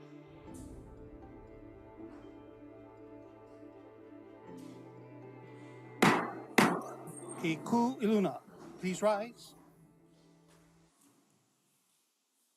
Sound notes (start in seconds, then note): 6.0 gavel bangs twice